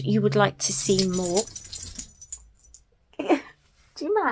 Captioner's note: Gizmo shakes loudly